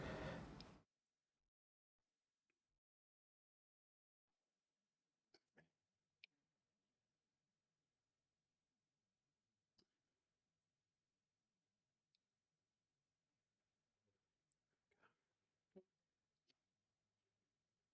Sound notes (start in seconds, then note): 0.5 click